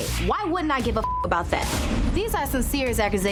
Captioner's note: beep